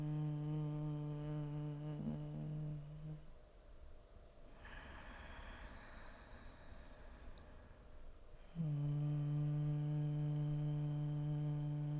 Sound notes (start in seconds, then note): 0.0 humming; 4.5 inhaling; 8.4 humming